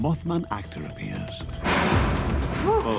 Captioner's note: crash